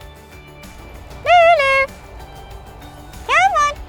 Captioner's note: calling